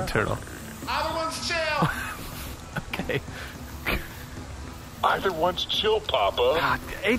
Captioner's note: shouting